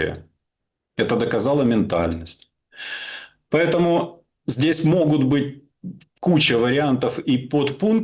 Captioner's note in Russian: тяжело вздыхает